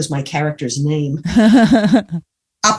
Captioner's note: laughs